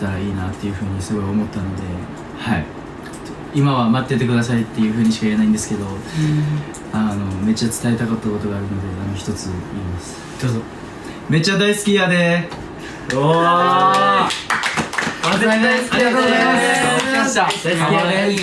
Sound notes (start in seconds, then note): 13.1 cheering